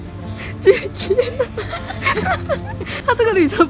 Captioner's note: laughing